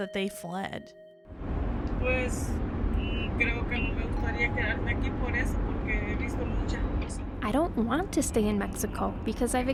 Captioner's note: audio of mother speaking in Spanish